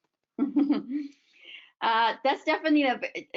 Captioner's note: laughs